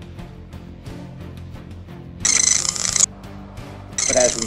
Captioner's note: high pitched AAA radar chirping sounds